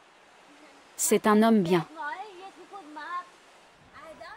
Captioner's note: xhosa spoken audio